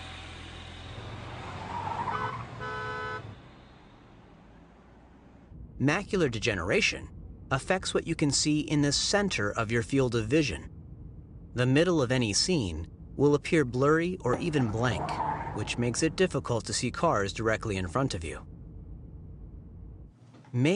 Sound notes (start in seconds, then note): 1.7 honking